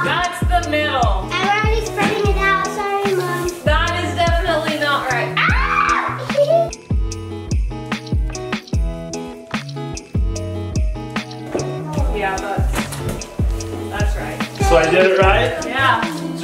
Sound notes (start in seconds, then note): 5.3 screams; 5.8 laughs; 7.8 mellow music continues